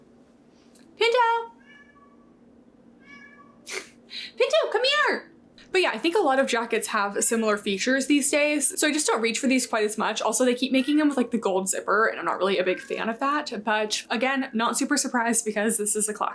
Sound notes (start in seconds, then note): 3.0 Pinto meowing